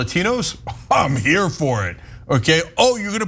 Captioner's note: laugh